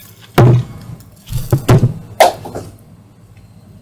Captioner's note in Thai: เสียงจมูกตกพื้น